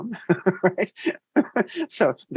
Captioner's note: laughs